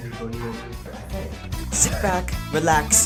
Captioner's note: wheeze